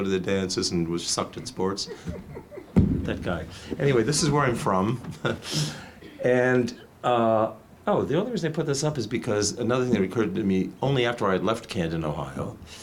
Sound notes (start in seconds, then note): 6.5 chuckles